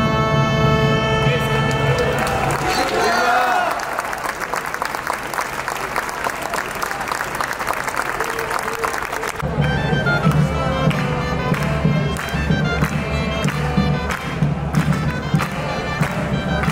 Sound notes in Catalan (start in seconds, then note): 3.8 Aplaudiment